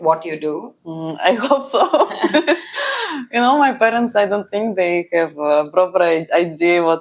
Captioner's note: laughs